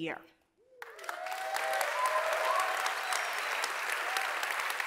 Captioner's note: audience applauding